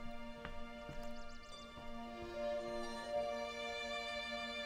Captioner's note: birds singing